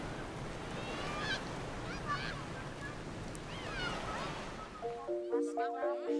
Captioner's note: children playing